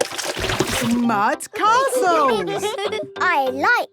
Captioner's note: all giggling